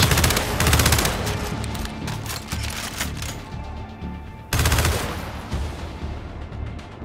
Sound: gunfire; gunfire

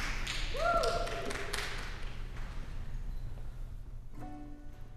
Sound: scattered applause

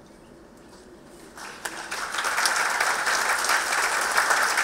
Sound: applause

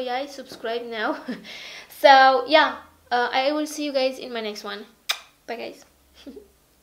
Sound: muah

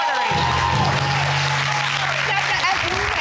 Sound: audience cheers

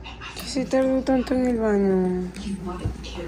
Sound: none

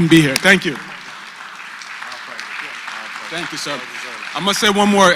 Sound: applause

